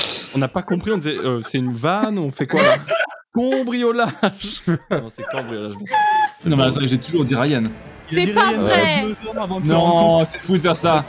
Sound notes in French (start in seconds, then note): 5.4 rires